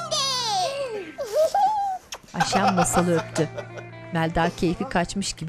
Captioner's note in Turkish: Gülme sesleri